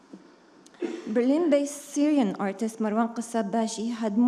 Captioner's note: attendee coughing